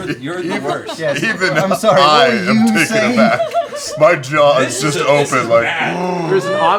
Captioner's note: gasps